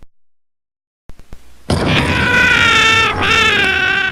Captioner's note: fire springs up